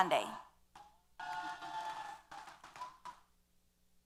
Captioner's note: applause & Cheers